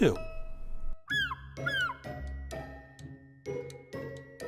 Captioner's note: seagull squawking